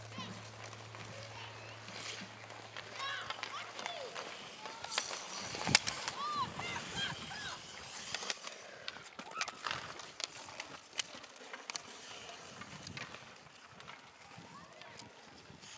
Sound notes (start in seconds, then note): 4.9 skates skidding; 8.7 sticks hitting puck; 11.8 skates skidding